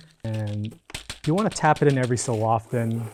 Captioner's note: plant thumping